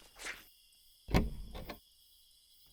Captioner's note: opens car door